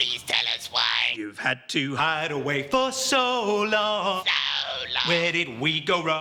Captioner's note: mechanical voice